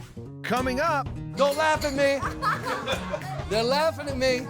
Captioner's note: laughing